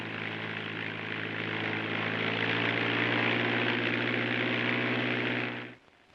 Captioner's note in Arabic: هدير الطائرة